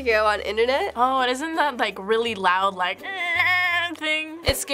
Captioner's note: screeching